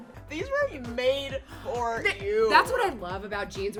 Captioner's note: none